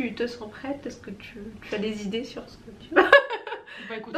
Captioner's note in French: rires